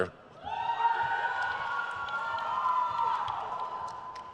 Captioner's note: crowd cheers